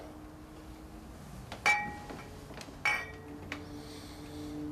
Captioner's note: clanking